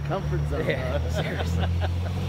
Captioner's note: laughter